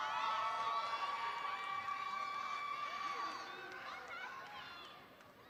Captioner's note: audience cheering